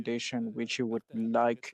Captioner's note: speaking French